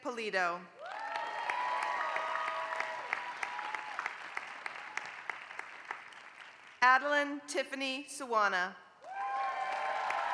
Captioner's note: applause; applause